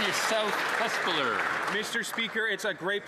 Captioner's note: applause